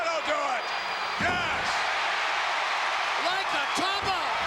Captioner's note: crowd cheers